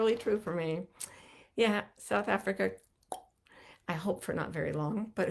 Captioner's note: clicks tongue